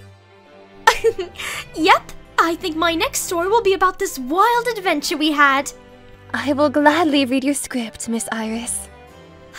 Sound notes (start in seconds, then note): 0.8 chuckle